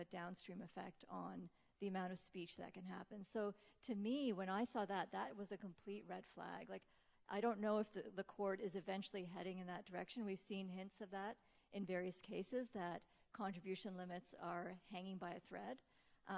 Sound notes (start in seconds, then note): none